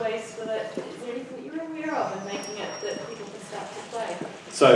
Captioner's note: mic distortion